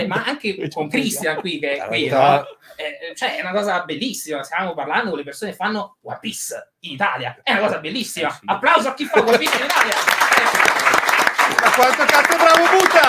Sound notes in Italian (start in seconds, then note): 9.2 Applauso